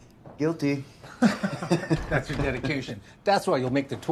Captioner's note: chuckling